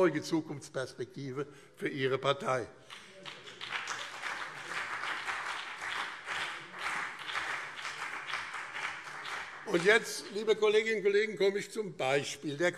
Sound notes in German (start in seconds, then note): 2.8 Beifall BÜNDNIS 90/DIE GRÜNEN und CDU